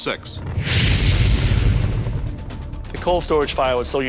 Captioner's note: fire roars